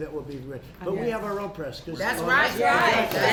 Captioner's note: applause